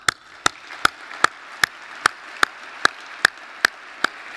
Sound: applauds; audience applauds

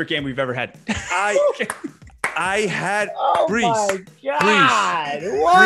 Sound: laugh

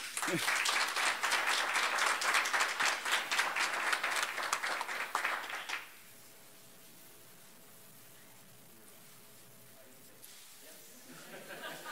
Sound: applause

